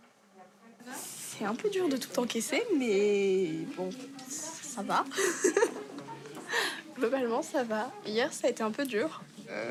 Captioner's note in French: rires